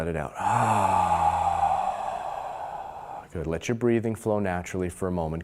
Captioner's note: loud exhaling